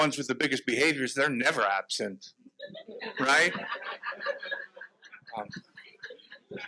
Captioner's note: audience laughs